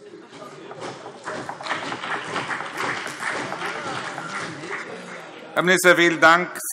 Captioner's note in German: Beifall CDU und vereinzelt BÜNDNIS 90/DIE GRÜNEN